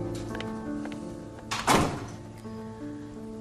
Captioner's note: door shuts